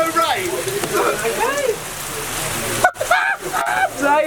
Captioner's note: laughing